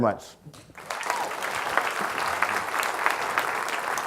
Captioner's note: audience clapping